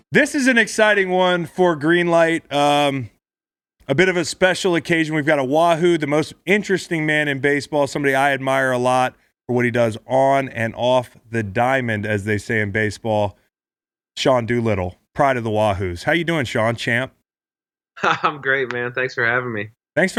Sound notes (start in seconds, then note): 18.0 laughs